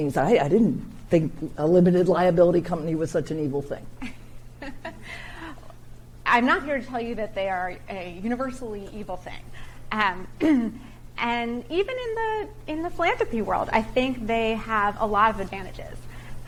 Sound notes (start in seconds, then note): 4.0 chuckles